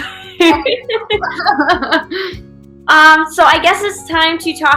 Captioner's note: chortle